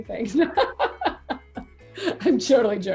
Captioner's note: laughs